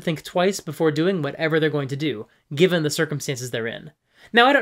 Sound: none

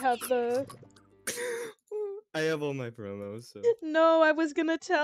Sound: laughs

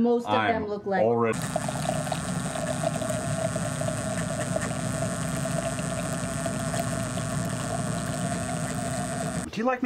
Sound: wine being poured through an aerator

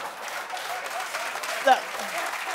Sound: applause

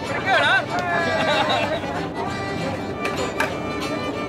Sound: laughing; zydeco music

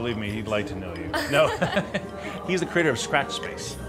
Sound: laughs

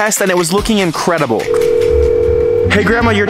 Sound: phone dialing

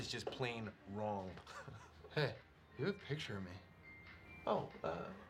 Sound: chuckles

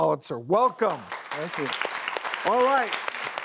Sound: audience applauds

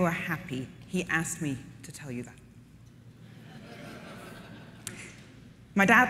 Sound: audience laughing

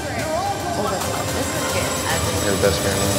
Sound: chattering

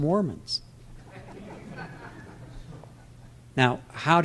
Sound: laughter

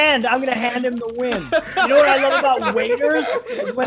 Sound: laugh

